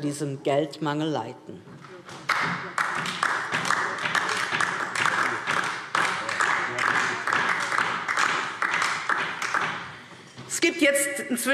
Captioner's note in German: Beifall DIE LINKE